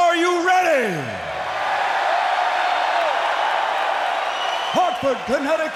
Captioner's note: crowd cheering